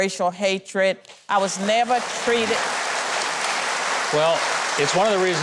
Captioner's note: audience claps